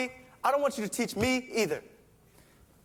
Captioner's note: none